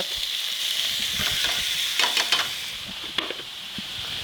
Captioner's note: sausage sizzling